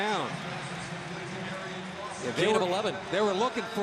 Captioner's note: pa announcement